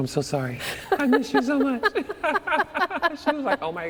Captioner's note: laughter